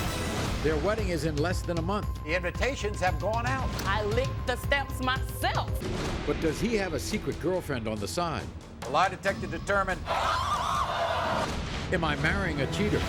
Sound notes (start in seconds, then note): 9.8 audience gasping; 9.8 yelling